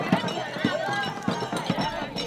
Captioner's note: fire crackling